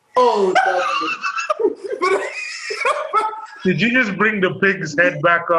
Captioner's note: laughs